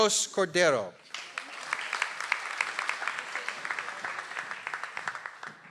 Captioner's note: audience applauds